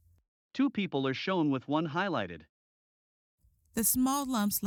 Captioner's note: voiceover